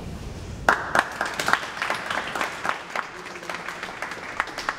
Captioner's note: audience applauds